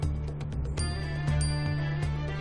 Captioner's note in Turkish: Mesaj sesi